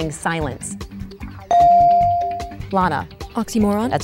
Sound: dinging

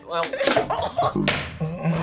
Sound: React laughs

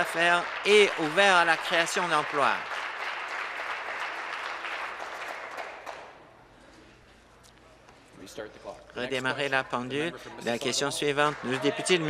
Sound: applause

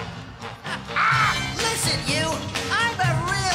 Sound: laughing; mockingly

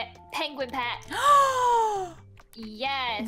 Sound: huge Gasp

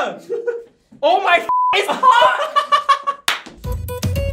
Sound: laughs

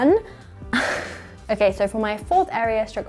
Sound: giggles

